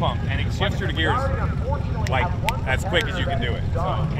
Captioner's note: snaps fingers